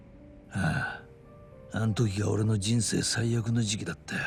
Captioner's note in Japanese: 鼻息